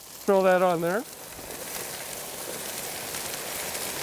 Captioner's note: sizzling